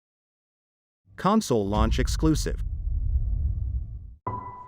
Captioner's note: dramatic sound; slow piano music playing